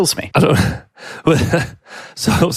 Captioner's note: chuckles